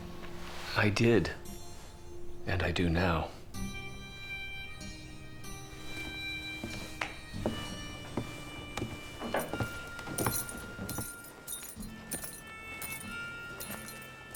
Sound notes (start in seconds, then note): 9.5 shoes jingling